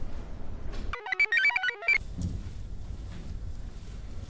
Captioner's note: computer chirps